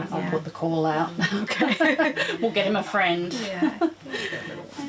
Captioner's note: laughs